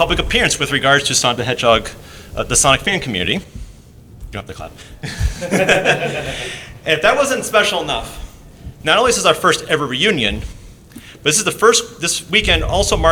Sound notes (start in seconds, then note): 5.0 chuckles